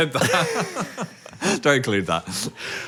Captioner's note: all laugh